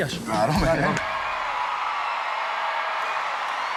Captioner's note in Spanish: público aclama